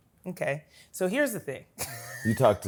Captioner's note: laughs